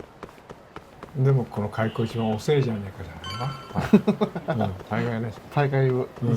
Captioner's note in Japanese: 笑い